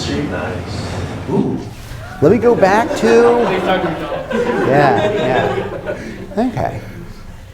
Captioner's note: laughter